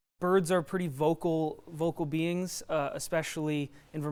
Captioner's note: none